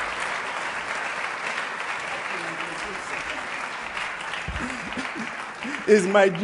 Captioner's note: applause